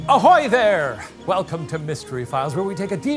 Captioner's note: seagulls calling faintly